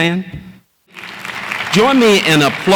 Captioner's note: audience applauds